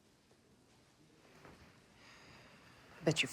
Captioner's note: sighs